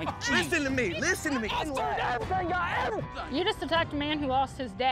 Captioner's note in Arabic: صراخ غاضب